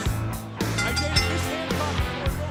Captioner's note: bell ringing